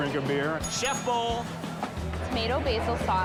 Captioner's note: bell dings